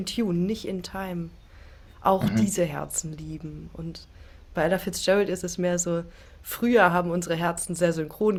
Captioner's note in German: räuspern